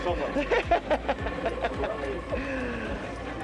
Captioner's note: laughs